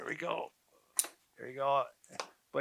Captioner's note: handles clicking